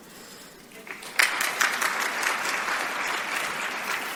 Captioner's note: applause